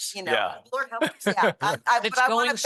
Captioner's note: multiple voices